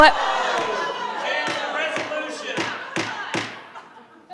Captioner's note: crowd shouting